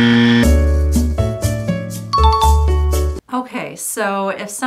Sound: warning tone; elevator music; bell dinging

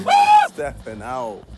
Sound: screaming

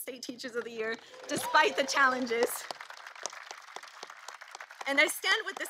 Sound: applause

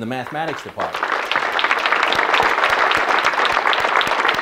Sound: audience clapping

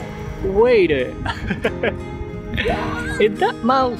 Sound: chuckle

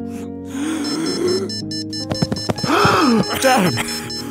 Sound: sharp inhale

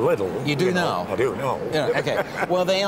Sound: laughs

